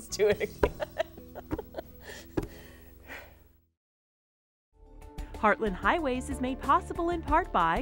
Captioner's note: laughing